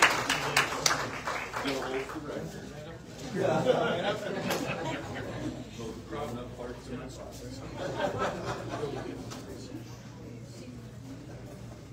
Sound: audience cheers and applauds; indistinct chatter

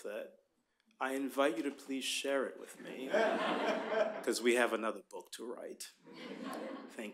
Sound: laughter

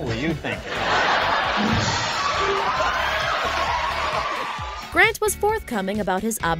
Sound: audience laughing

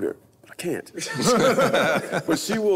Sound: group laughs

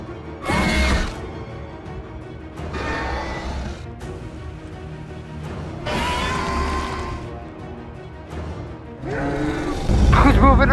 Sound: Scorpius Rex sounds

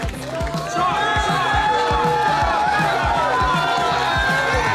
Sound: crowd

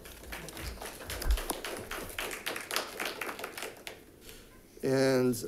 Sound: audience applauding

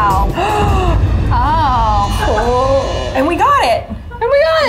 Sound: exclaiming

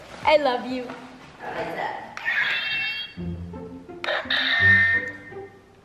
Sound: swords clanking together; upbeat music

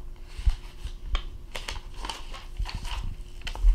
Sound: flipping page

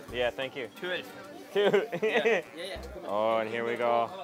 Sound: chuckles

